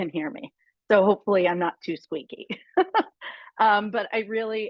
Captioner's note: laughs